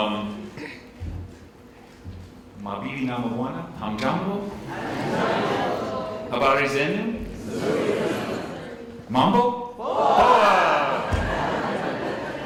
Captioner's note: speaking non-English language